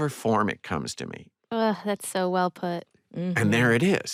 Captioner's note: sighs